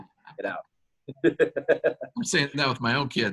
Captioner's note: laughter